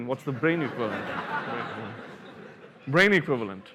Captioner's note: laughter